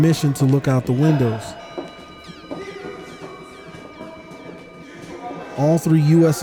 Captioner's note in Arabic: أصوات تصرخ بلغة أجنبية